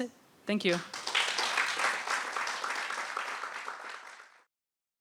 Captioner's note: applause